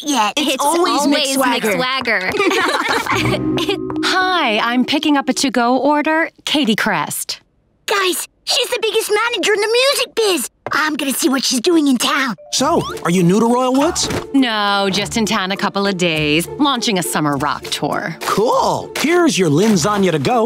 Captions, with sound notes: It always Mick Swagger. [laughing] Hi, I'm picking up a to go order, Katie Crest. Guys, she's the biggest manager in the music biz. I'm gonna see what she's doing in town. So are you new to Royal Woods? No, just in town a couple of days, launching a summer rock tour. Cool. Here's your limbs-sagna to go,